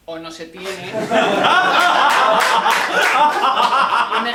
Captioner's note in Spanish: Risas